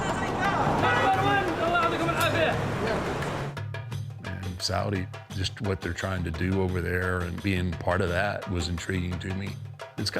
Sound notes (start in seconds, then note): 2.2 worker speaking in Arabic